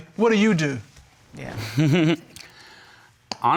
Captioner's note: chuckles